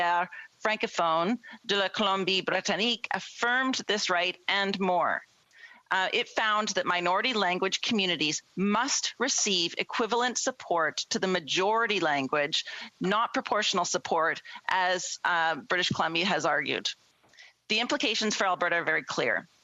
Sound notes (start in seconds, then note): 7.3 speaking French